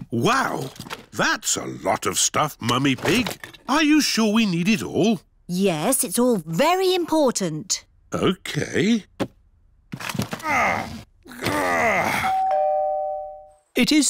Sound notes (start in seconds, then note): 10.3 groans; 12.2 doorbell rings